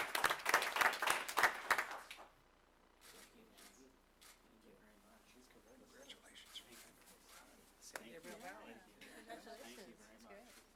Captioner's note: applause